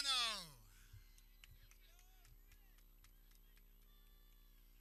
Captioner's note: people cheering